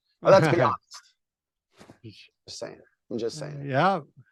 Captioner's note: chuckles